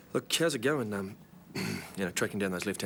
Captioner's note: clears throat